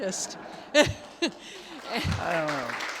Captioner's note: attendees laugh; attendees applaud